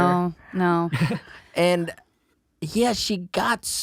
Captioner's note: laughs